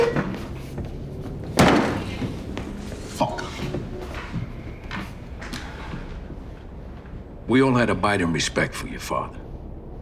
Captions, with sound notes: (chair screeching) (chair slamming) - Fuck! - We all had abiding respect for your father.